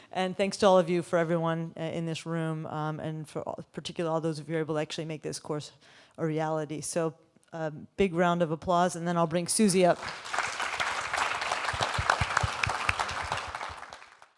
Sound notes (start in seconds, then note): 9.9 audience applauding